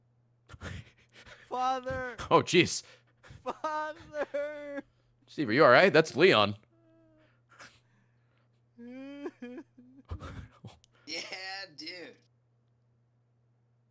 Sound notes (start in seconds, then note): 6.8 crying